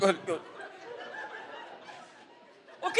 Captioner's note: audience laughs